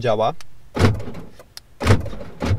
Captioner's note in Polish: dźwięk zamykania drzwi; dźwięk otwierania drzwi